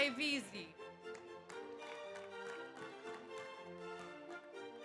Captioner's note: audience applauds